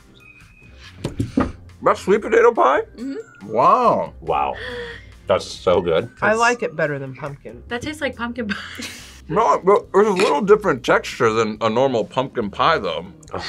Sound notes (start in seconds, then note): 8.5 laughs